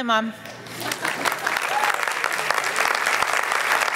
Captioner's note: applause